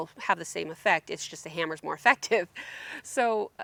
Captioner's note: chuckles